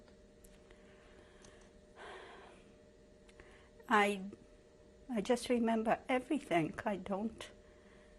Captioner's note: sighs